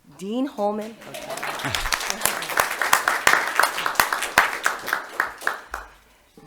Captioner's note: applause